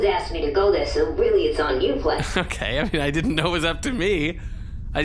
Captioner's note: laughing